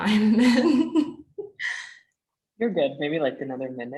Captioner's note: laughing